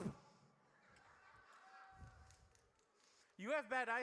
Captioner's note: audience laughs